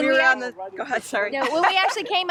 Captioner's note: laughs